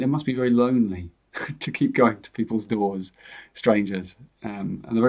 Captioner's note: chuckles